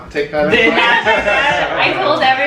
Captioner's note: laughter